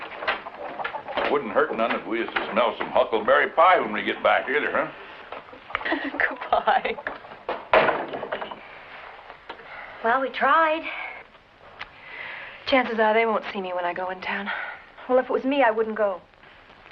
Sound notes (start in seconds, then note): 3.8 laughing; 7.1 door closes